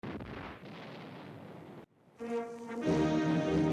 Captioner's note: bomb exploding